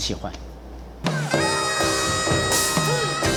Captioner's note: actors chanting